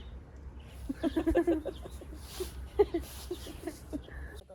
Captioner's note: heheheheehe😄